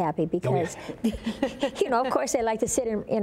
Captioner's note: laughter